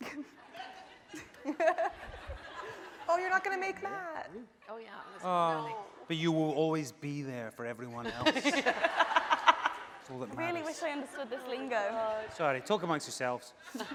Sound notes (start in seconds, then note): 0.1 laughing; 8.5 laughing